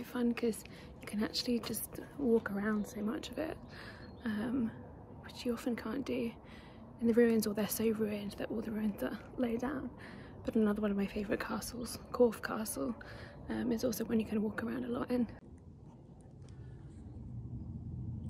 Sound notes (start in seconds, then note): 0.0 sound of wind and people chatting; 9.1 sound of wind and traffic